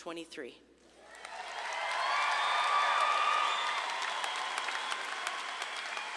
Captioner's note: audience claps and cheers